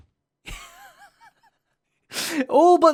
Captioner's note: giggles